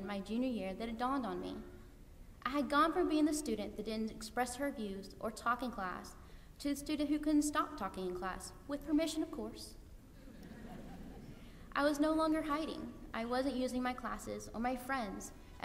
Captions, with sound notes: my junior year that it dawned on me. I had gone from being the student that didn't express her views or talk in class to the student who couldn't stop talking in class-- with permission, of course. [LAUGHTER] I was no longer hiding. I wasn't using my classes or my friends